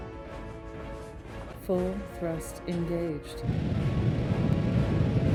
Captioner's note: computer Voice